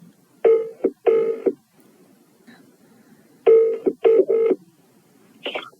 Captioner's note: phone Ringing